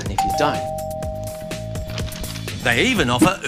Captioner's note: doorbell rings